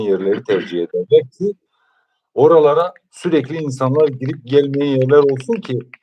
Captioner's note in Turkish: boğazını temizler